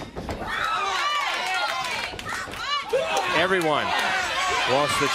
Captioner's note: crowd cheering